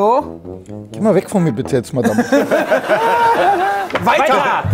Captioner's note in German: Lachen